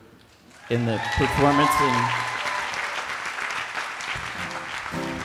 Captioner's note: attendees applauding